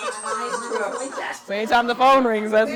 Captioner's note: laughs